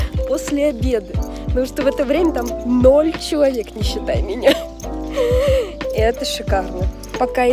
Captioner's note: laughter